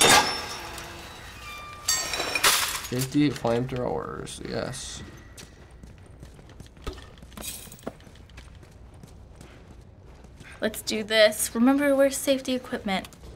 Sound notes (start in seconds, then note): 0.0 metallic clanking; 0.1 door creaks; 6.6 objects rattle